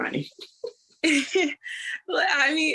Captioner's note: laughter